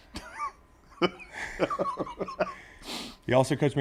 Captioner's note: laugh